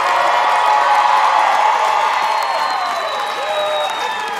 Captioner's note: cheers and applause